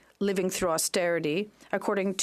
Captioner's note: speaking French